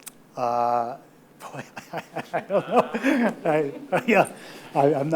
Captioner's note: chuckles